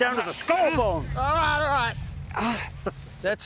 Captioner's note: yelling